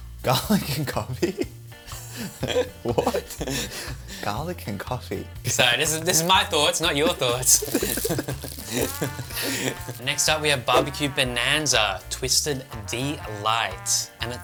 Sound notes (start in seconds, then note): 1.9 laughter